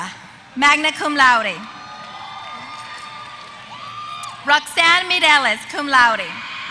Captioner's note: applause